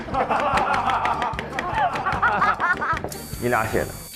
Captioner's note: hahaha